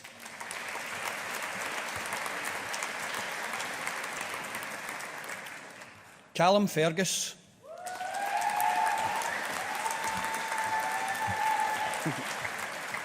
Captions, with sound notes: (AUDIENCE APPLAUDING) Calum Fergus. (AUDIENCE APPLAUDING)